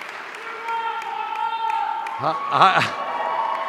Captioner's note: audience member shouting; laughs